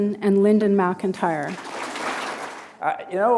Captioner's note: applause